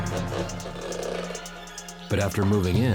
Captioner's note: creaking